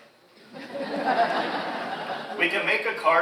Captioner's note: audience laughs